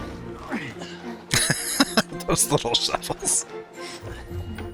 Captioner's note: laughing